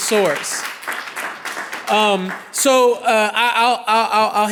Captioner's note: clapping